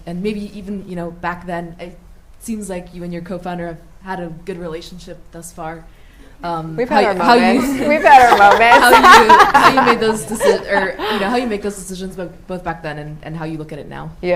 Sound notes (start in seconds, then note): 7.0 laughs